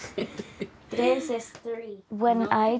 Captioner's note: laughing